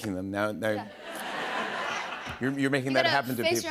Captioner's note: laughter